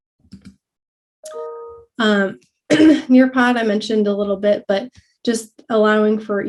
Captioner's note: cough